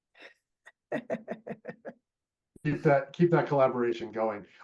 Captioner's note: laughing